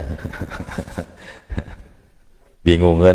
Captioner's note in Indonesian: tertawa